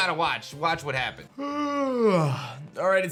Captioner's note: yawns